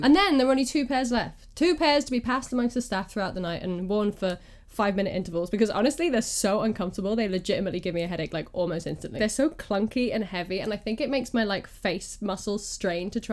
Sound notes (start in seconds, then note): none